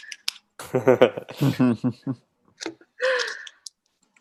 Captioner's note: laughing